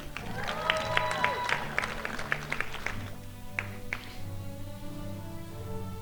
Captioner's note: crowd applauding